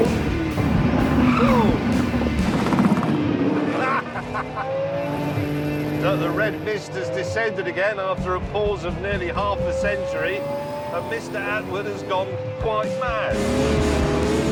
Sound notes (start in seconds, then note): 1.2 tyres screech; 3.5 laughs